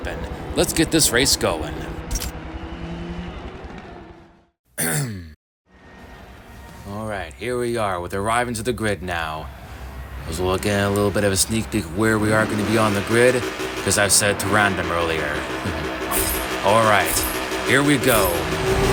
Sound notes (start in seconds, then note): 4.8 clears throat